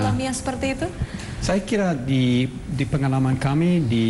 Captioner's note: non-english speech